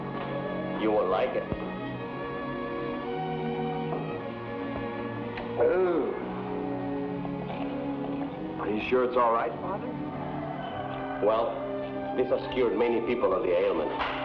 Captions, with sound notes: - You will like it. (Judd groans) - Are you sure it's all right, Father? - Well, this has cured many people of the ailment.